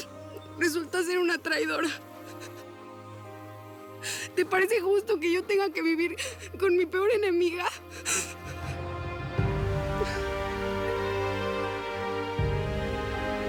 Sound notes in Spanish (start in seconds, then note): 5.1 sollozos